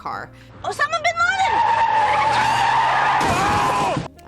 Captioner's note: car tires screech